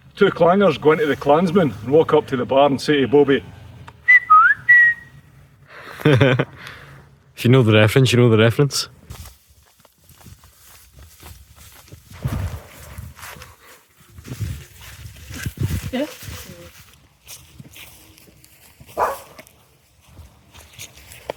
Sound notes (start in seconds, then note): 3.6 laughter; 4.0 Clangers whistle sound; 18.9 dog barks